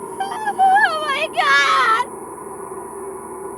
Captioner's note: sobbing